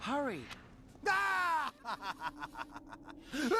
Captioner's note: evil laughter